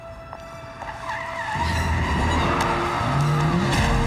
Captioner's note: tires screeching; screams